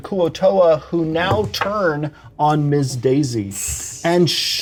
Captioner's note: shushes